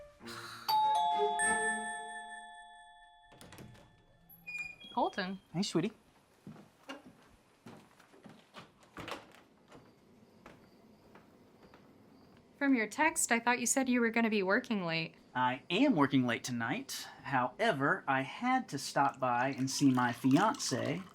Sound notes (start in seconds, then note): 0.4 Colleen scoffs; 0.7 doorbell rings; 6.4 crickets chirping